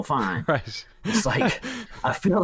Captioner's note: chuckles